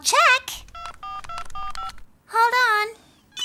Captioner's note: phone beeping